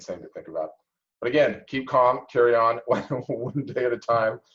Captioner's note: laughs